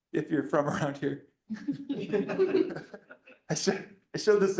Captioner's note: laughter